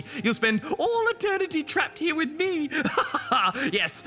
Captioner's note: laughs